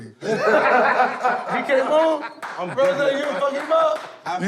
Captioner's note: laughter, indistinct chatter